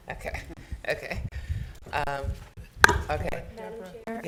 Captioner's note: chuckling